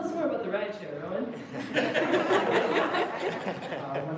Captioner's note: laughter